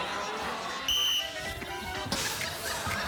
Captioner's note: blows whistle